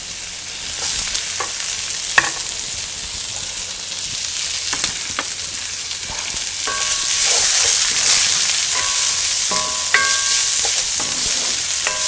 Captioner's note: stirring onions in sizzling pan